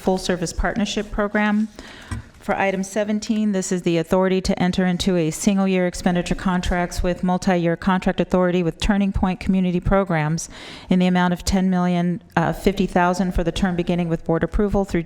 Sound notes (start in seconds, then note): none